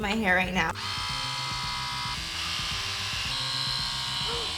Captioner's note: machine whirs